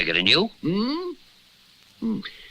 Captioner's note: Simon Gasps